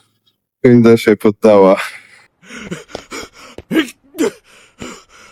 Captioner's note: laughter